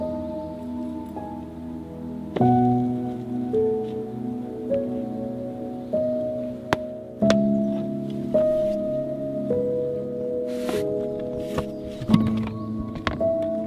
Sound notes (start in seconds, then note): 7.2 sneakers banging; 10.5 objects rummaging